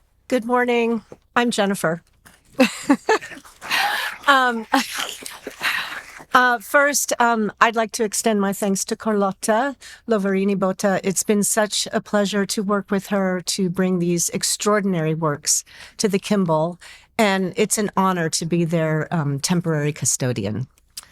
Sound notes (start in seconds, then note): 2.5 laughing; 2.9 audience applauding